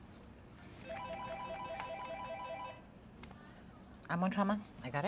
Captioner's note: phone rings